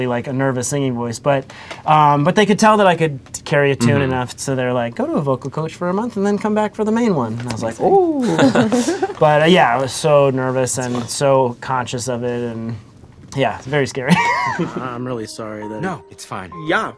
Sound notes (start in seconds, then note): 8.2 laughter; 14.1 laughter